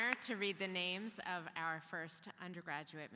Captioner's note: applause